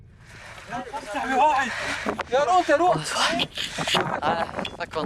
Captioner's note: Arabic spoken audio